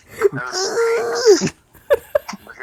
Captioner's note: groaning